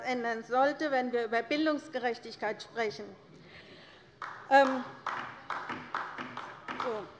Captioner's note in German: Beifall bei der LINKEN